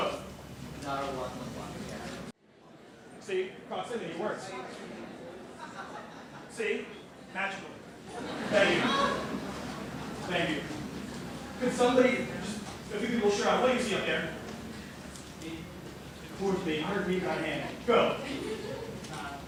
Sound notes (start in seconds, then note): 8.0 laughter